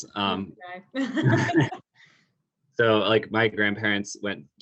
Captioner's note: laugh